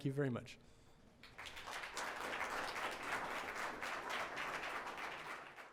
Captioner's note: audience applauds